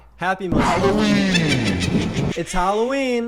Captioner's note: witch cackles